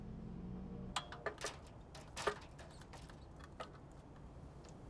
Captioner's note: metal ladder clanking